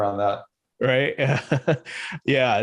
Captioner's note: laughs